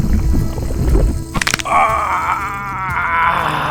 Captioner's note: skull cracking